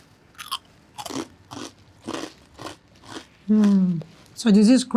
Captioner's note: food crunching